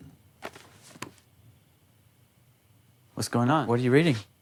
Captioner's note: book fluttering